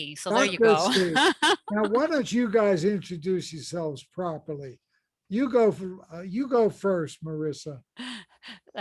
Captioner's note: laughs